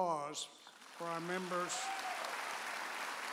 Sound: audience applauds

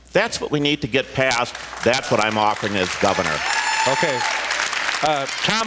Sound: applause, cheers; cheers, applause

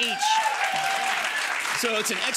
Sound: audience applauding

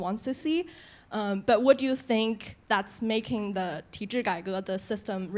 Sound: speaks Chinese

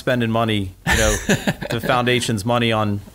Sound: laughs

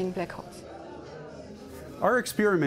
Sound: people chattering

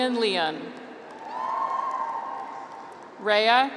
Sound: graduates cheer

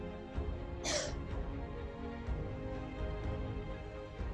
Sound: woman coughing

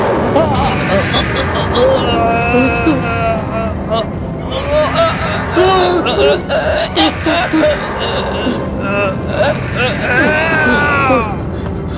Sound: groaning in pain

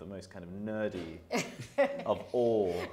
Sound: laughing

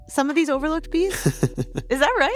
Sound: laughs in response

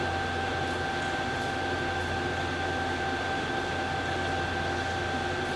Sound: dull machine whirring

